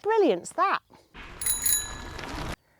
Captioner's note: bell ringing